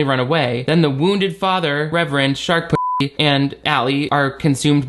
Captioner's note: beep